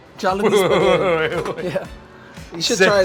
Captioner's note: laughing